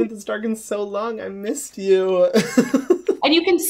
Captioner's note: laughs